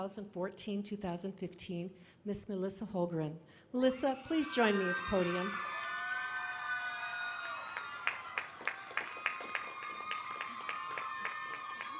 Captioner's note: applause